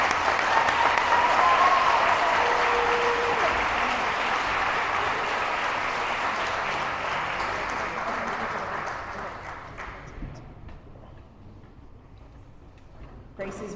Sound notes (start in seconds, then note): 0.0 loud Applause